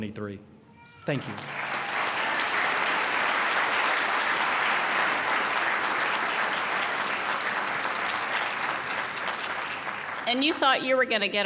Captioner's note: applause